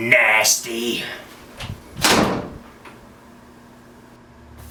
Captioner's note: door slamming